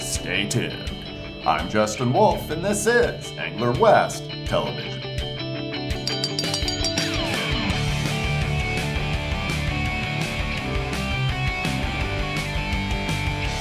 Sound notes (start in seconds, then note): 6.0 bell ringing